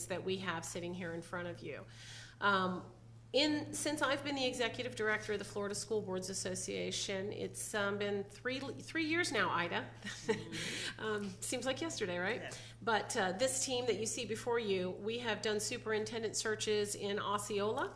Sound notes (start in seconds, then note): 10.1 laughs